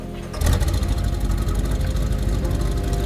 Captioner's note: car engine starts